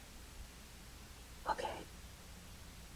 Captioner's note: whisper